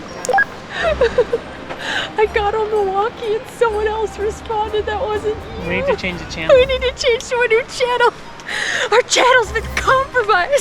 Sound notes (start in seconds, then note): 0.7 laughs